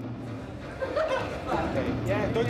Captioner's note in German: Lachen